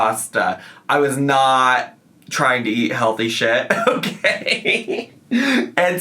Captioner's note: laughs